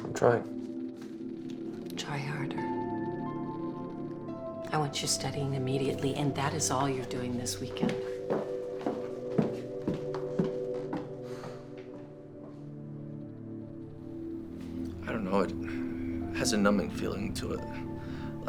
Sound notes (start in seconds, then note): 7.7 footsteps clacking; 11.2 Drew sighs